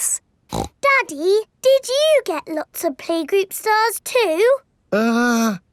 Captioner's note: snorts